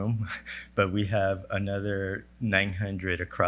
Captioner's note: laugh